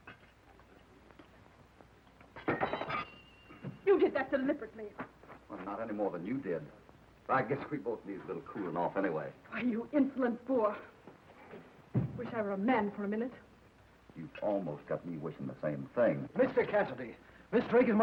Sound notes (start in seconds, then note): 2.3 water glass clatters